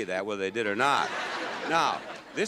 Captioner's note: audience laughs